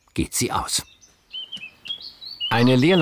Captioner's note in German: Vogelgezwitscher